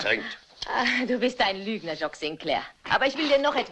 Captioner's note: chuckling